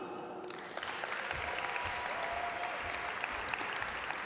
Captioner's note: audience applaud